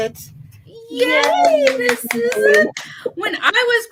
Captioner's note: clapping